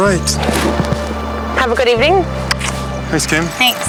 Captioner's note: kiss